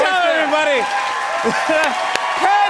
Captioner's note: cheers and applause